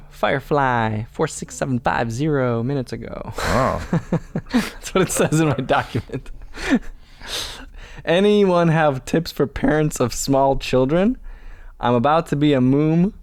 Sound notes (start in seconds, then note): 3.3 chuckle